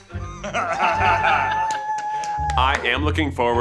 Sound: guys laughing

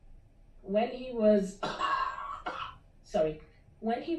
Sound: caughing

